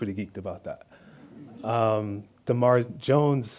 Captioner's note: audience laughs